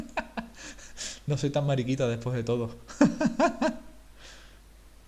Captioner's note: laugh